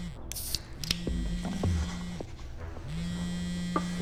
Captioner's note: phone buzzing; can clicks; phone buzzing